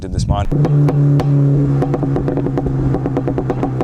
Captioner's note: muffled exhaust